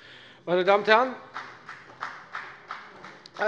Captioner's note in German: Beifall bei der FDP